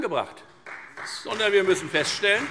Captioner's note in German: Beifall Freie Demokraten